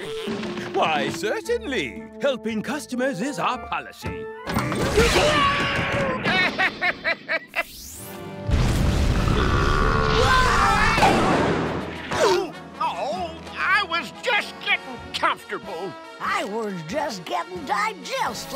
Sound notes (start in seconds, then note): 5.7 laughing; 8.9 belching